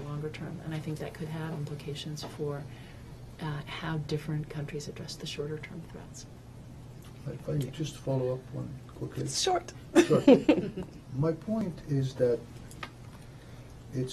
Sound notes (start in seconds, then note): 9.9 laughter